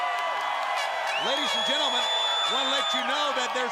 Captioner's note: crowd cheering